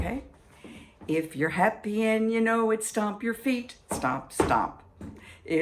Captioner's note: stomp stomp